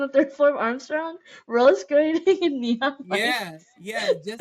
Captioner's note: laughter